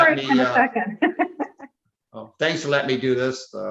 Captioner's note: laughs